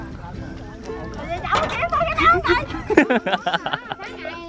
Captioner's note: laugh